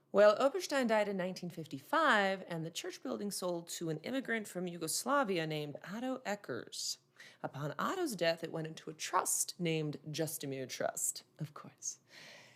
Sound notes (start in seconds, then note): none